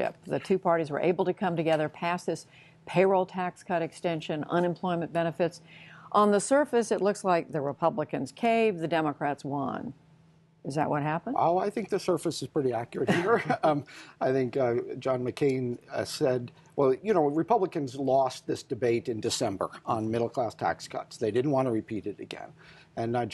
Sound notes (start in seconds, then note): 13.0 laughter